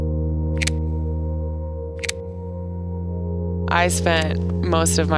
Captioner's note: shutter clicking